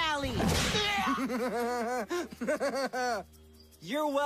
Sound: evil laugh

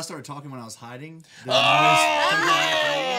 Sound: laughing

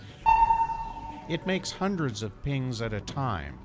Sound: sonar pings

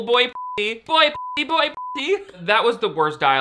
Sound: beep

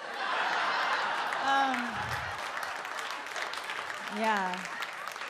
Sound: audience laughs and claps

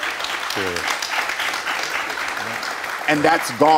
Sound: audience applauds

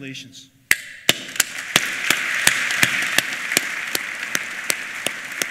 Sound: applause

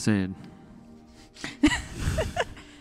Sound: laughs

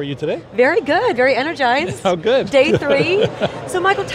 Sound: laughter

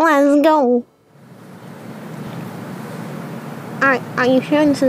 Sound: wind blowing, it continues for a while

